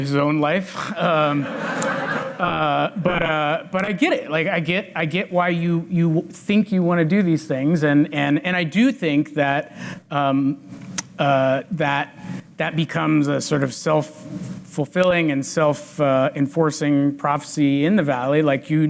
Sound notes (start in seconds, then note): 0.8 chuckles; 1.0 audience laughs